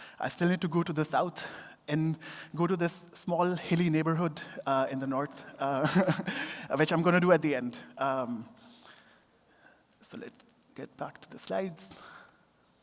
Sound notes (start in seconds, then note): 5.8 laughter